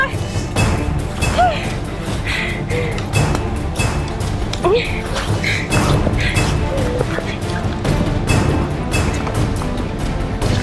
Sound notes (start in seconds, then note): 1.3 gasping; 4.8 Sheila whimpering